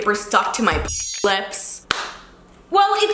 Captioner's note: chiming